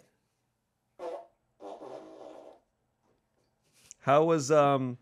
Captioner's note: fart machine farts